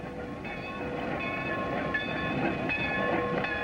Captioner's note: bells ringing